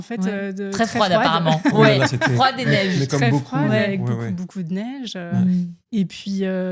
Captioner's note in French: rires